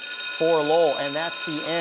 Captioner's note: timer ringing